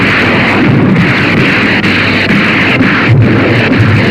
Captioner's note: rockets whooshing